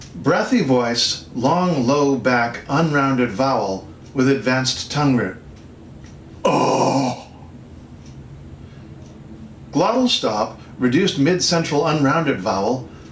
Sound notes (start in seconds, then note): 6.4 sighs deeply